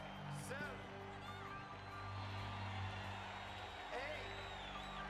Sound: audience cheering

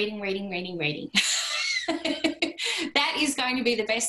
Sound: laughter

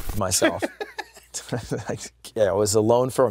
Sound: laughs

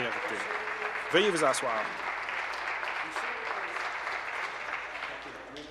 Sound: applause

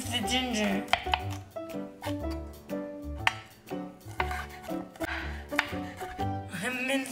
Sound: chopping

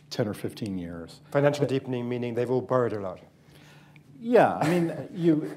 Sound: laughs

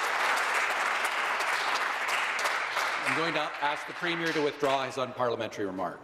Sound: some Applause

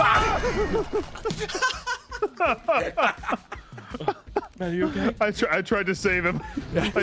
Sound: laughs

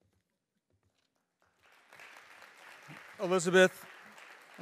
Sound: audience applauding

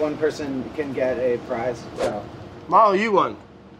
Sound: air whooshing

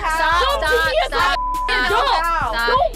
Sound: beep

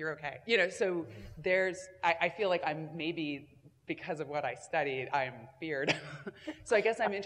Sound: laugh

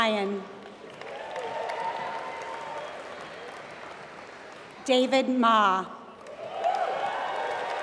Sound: applause; applause

